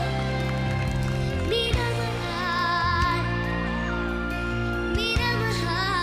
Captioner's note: clapping